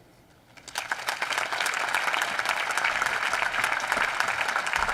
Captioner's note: applause